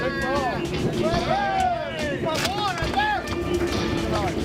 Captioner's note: cheering